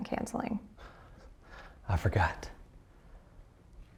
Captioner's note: breathes uneasily